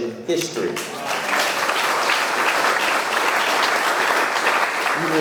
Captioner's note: audience clapping